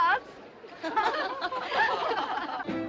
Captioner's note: Mulheres Rindo